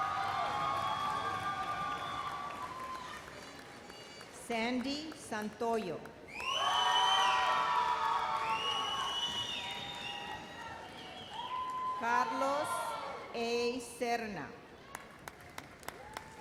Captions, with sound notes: (audience cheers and applauds) Sandy Santoyo. (resounding cheers and applause) Carlos A. Serna. (audience applauds)